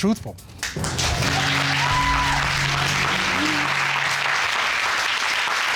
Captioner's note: audience applauding